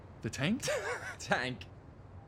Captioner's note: laughs